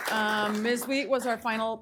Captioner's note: applause